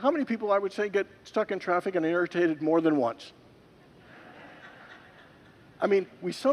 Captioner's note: congregants laugh